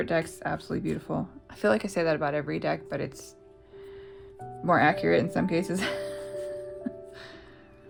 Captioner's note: laughs